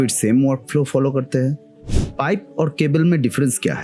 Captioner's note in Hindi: नाक से की जाने वाली आवाज़